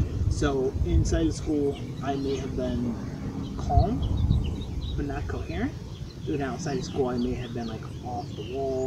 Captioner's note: birds chirping